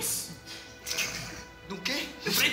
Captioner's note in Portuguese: Risos